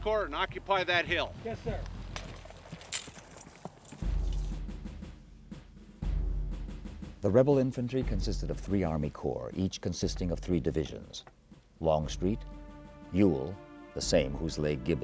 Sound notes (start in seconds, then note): 7.5 voiceover